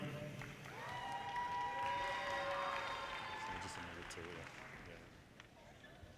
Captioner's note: audience cheers and applause